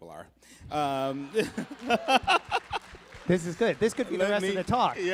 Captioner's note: laughter and applause